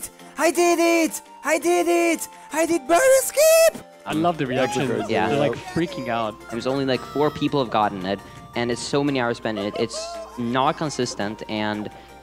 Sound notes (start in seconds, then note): 4.5 group agreeing